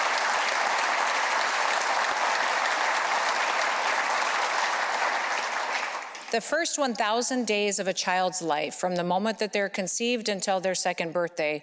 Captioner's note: applause